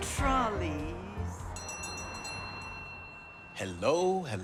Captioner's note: bell clangs